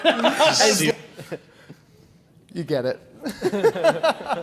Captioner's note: laughs